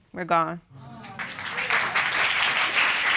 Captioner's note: audience applauding